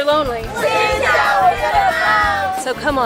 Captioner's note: speaking in foreign language